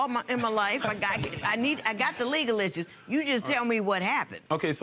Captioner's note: laughter